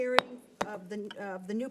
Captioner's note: gavel bangs